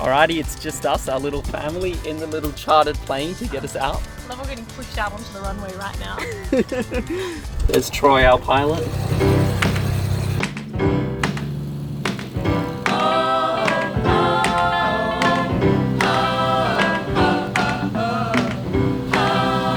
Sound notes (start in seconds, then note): 6.1 laughing; 9.4 upbeat music